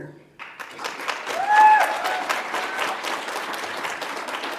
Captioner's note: audience applauds